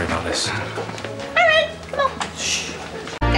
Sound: chirpy

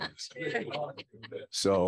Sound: laughter

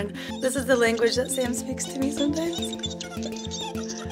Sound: toy squeaking

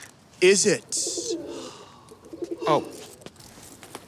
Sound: dove cooing

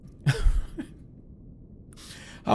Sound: soft laugh

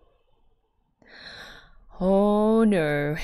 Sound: inhales

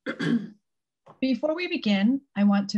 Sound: clears throat

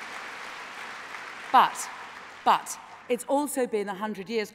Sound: applause

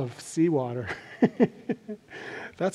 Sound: laughs

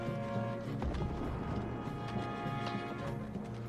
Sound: artillery booming

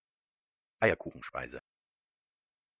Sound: fast Pronunciation

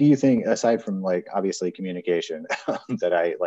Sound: chuckles

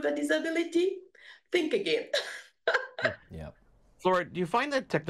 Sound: giggles

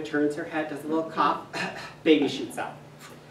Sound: feigns cough

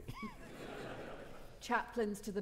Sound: audience laughing

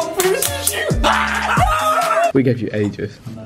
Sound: screaming and cheering

